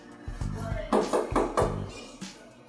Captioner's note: knocks on elevator door